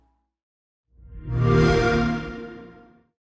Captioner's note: xbox sound